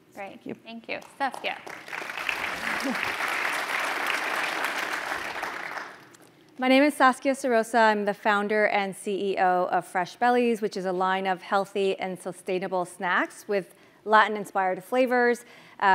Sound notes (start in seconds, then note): 1.0 applause